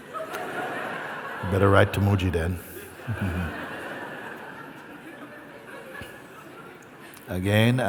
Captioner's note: laughter; laughter